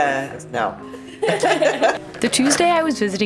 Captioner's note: all laughing